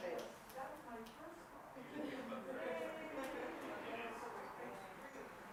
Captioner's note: participants continue chattering